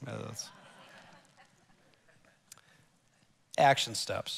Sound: congregation laughs

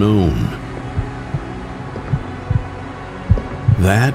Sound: heart beating

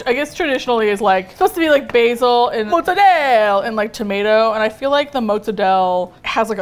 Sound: exaggerated accent

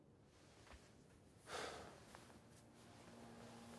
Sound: Matt sighs; somber music

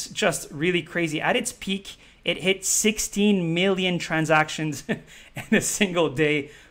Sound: chuckles

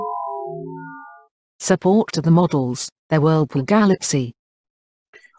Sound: voice-over

